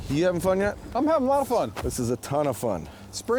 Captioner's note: voiceover